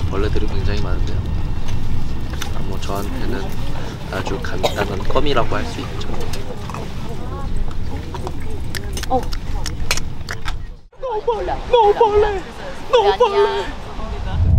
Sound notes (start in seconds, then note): 8.6 nom nom nom